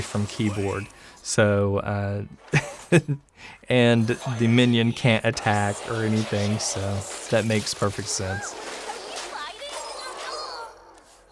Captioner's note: haha